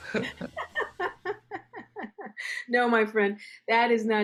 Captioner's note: laughter